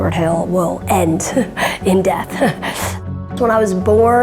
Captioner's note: chuckles